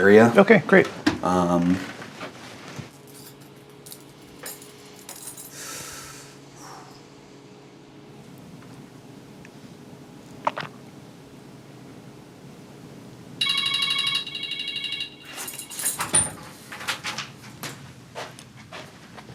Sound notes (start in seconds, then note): 13.4 timer ringing